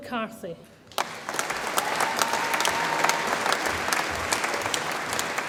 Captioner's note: audience applauds and cheers